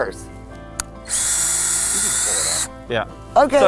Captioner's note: drill whirring